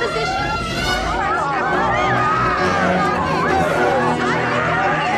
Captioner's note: all chattering; passengers screaming